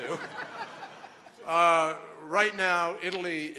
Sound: laughter

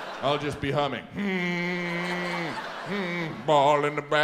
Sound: audience laughs; hums loudly

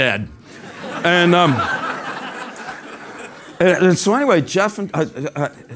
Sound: laugh

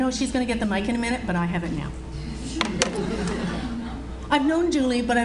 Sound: audience Laughs

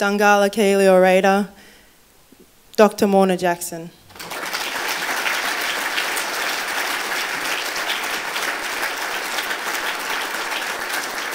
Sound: applause

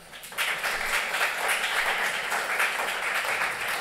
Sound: applause

